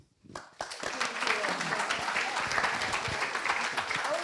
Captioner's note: crowd applauding and cheering